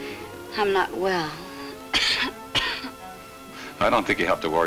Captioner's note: coughs